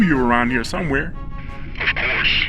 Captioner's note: radio reverb